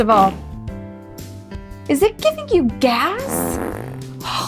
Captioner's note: man farting